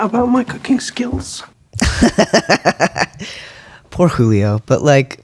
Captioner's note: laughter